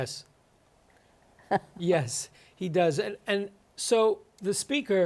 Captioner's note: chuckles